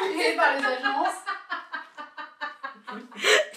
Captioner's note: laughing